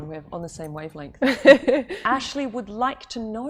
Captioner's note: laughter